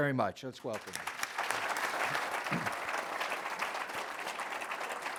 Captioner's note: applause